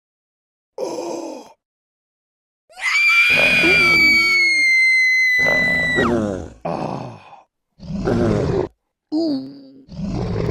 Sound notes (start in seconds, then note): 2.7 scream; 7.8 snarl